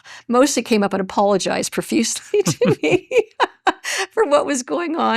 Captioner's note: chuckles